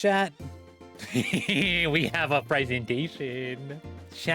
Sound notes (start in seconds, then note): 1.0 chaotic laughter